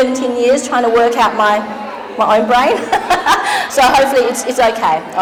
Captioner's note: laughing